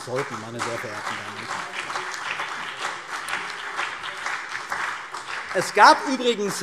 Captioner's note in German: Beifall CDU und BÜNDNIS 90/DIE GRÜNEN